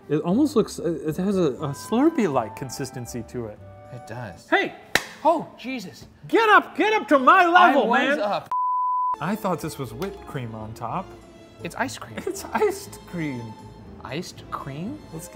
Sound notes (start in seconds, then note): 4.9 clapping; 8.5 screen beeping